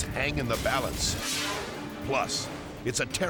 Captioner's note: air whooshes